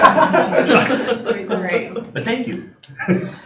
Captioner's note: laughing